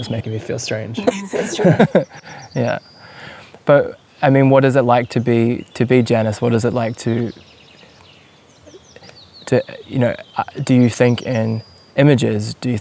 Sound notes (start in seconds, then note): 1.0 laughing